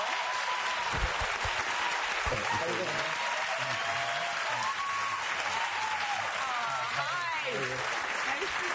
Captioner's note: applause